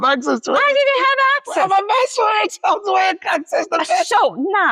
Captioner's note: laughs and mumbles